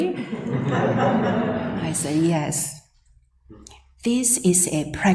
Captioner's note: laughs